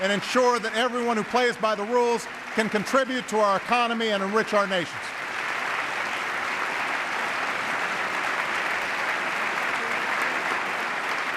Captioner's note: applause